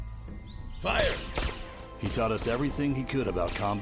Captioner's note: guns firing